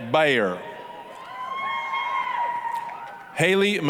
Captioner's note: applause, cheering